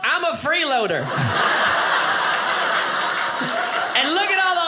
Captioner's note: audience laughing